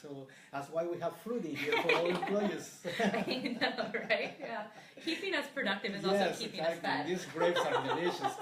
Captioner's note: laughter